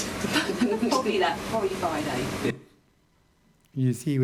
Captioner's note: laughing